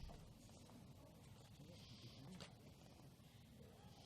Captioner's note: none